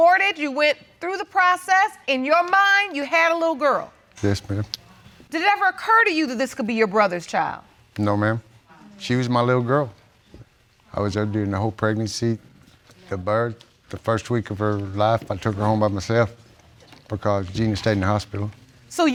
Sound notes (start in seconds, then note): none